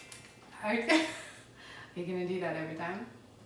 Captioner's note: chuckles